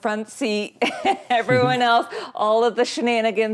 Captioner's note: laughing